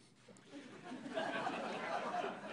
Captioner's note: laughter